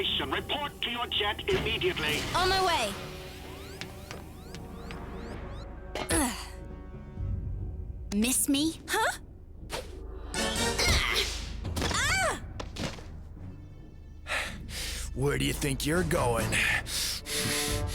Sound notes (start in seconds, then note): 7.3 landing grunt; 12.0 grunt of effort